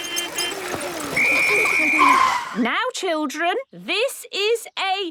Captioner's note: whistle blowing